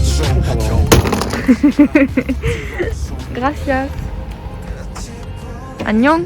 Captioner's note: laughing